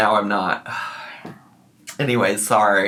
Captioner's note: sighs